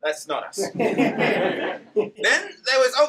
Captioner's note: laughter